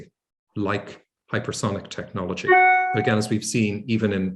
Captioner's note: ringtone dings